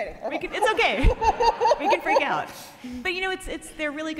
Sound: laughing

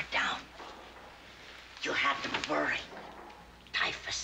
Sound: echoey clunk of heavy metal

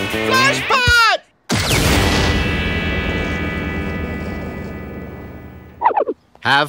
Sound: exploding

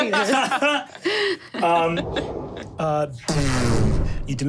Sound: group laughing

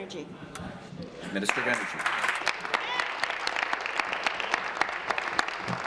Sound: applause

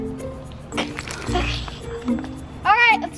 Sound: snickering

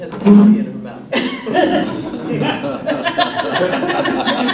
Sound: laughter

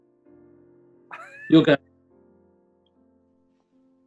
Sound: sniggering

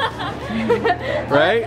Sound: laughing

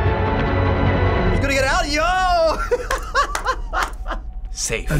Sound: laughing

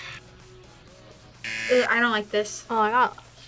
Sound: buzzer

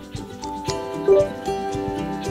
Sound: chime

